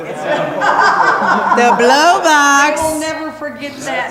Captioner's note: laughing